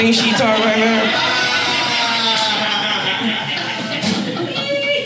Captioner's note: audience laughing